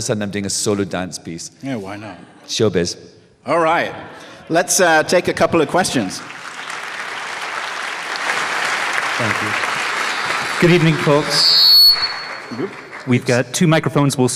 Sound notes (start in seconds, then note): 5.7 applause; 9.2 mic feedback